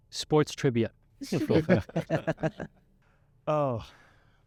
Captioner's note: students laughing